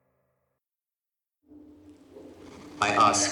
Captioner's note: loudspeaker crackles